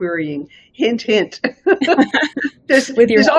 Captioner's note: both laughing